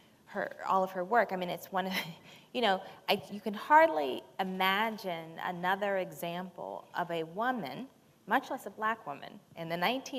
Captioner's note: chuckle